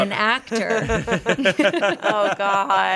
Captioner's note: everyone laughs